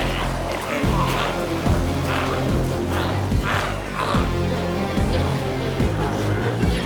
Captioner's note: glowzies growling continues; intense music continues